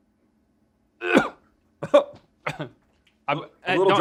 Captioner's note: Link coughs